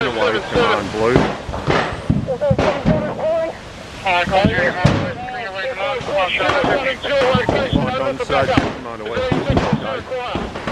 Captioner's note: radio Chatter